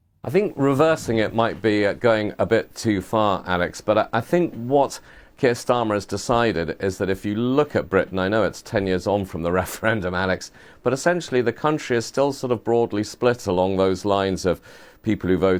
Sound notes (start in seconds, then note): 10.1 laughs